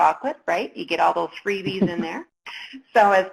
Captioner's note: laughs